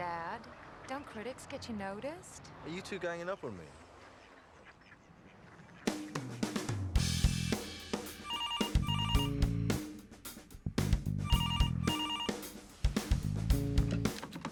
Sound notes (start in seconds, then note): 6.7 upbeat music; 8.2 phone ringing